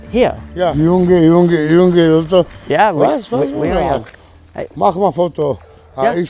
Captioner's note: builder speaking in foreign language